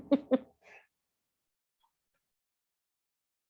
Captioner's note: laughs